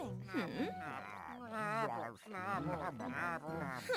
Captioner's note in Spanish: esfuerzo